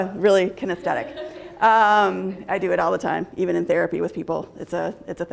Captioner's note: laughter